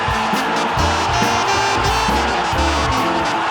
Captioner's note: crowd explodes into cheers; crowd goes fucking nuts; crowd fucking loses it